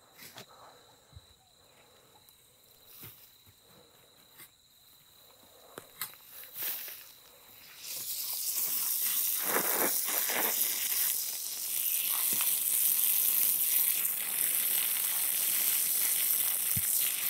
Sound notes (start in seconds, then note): 0.2 insects chirping; 8.7 water spraying